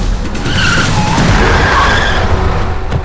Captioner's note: brakes squeal